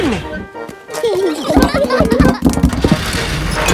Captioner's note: children giggling